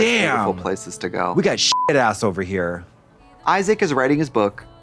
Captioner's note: beep